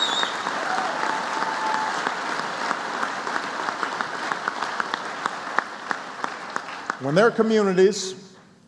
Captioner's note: applause